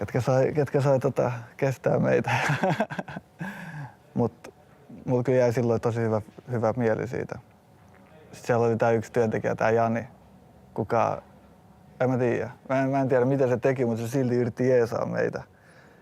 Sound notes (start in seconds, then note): 2.2 laughs